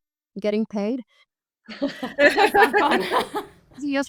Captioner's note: group chuckles